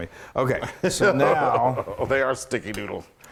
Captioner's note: laugh